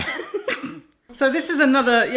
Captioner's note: laughing